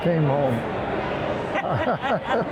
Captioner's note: laughter